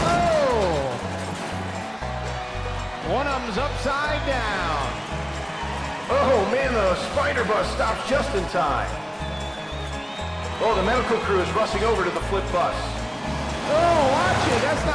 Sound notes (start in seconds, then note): 4.6 crowd cheering